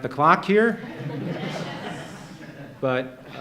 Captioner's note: laughter